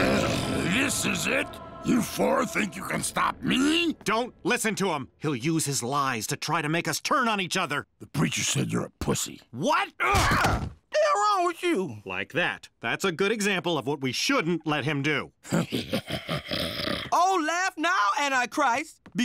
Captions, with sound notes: YOU FOUR THINK YOU CAN STOP ME? - DON'T LISTEN TO HIM. HE'LL USE HIS LIES TO TRY TO MAKE US TURN ON EACH OTHER. - THE PREACHER SAID YOU'RE A PUSSY. - WHAT? - WHAT'S WRONG WITH YOU? - LIKE THAT. THAT'S A GOOD EXAMPLE OF WHAT WE SHOULDN'T LET HIM DO. - [laughing] - OH, LAUGH NOW, ANTICHRIST. BECAUSE SURPRISE!